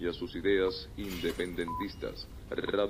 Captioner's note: radio